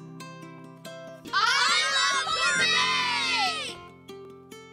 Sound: kids shouting

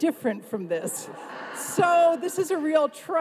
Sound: everyone laughs

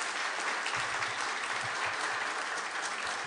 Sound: applause

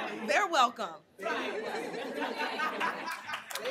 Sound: laughing

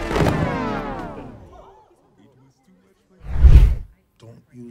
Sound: crowd gasping, murmuring

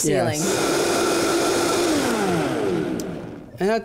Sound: blender buzzing

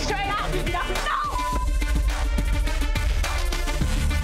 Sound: beep

